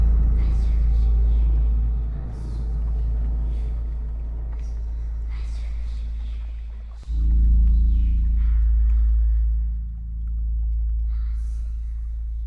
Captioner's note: children Whispering